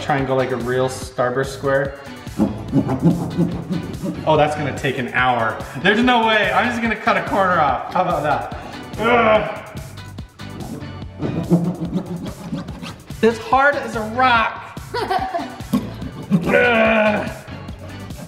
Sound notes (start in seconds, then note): 2.3 sawing; 9.2 light, lively music; 11.2 sawing; 14.8 boys laughing